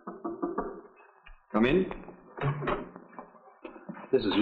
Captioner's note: knock on door